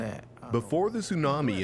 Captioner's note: speaking Japanese